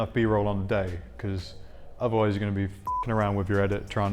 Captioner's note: beep